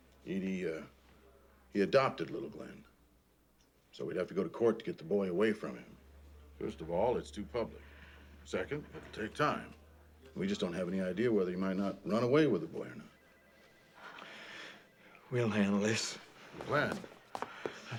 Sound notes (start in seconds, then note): 14.0 inhales